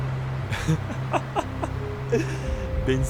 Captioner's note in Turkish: kahkaha